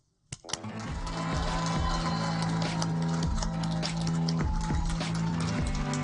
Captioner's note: mellow music playing; audience applaud